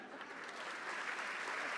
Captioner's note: applause